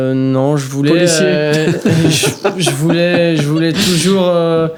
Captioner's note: laugh